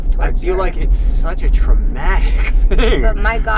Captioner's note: laughs